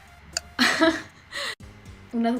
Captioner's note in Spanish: ríe de autocringe